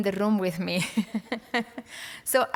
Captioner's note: laughter